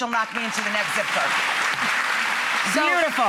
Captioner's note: audience applauds